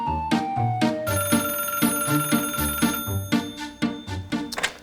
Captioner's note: phone rings